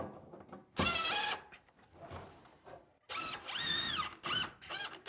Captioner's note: drilling sounds